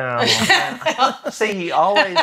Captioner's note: laughs